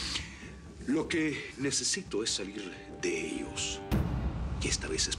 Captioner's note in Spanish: Aspirando profundo